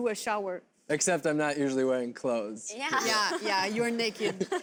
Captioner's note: laughter